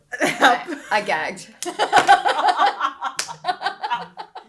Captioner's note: laughing